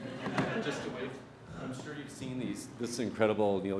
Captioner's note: audience laughs